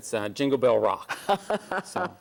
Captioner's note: laughs